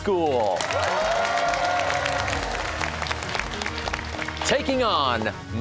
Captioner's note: cheers and applause